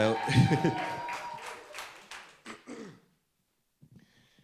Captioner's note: audience applauds